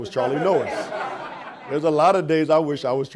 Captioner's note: audience laughing